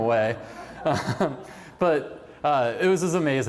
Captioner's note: laughter